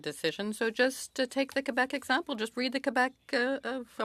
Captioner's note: speaking French